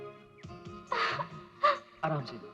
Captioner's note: groans